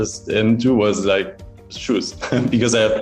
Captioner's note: chuckling